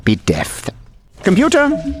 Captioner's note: footsteps